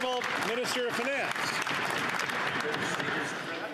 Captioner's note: some Applause